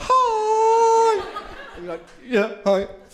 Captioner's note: crowd laughing